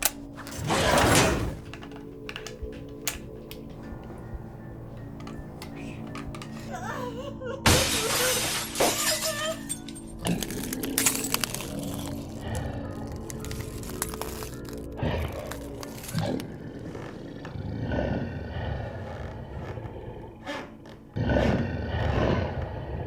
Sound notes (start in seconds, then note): 0.1 gun snapping; 0.6 Brad growling; 5.6 Heather sobbing; 7.6 glass shattering; 10.2 footsteps crunching; 10.2 Brad growling; 12.6 tense music